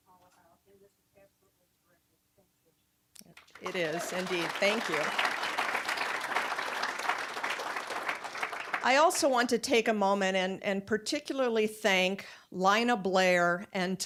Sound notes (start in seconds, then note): 5.4 applause